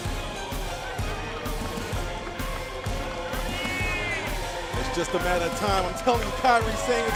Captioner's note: crowd cheering